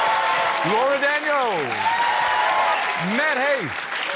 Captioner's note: cheering, applause